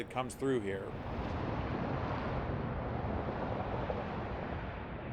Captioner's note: wind howling